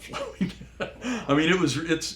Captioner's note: laugh